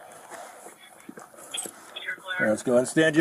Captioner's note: radio chatter